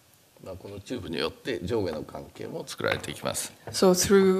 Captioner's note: speaking japanese